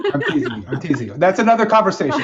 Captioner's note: laughing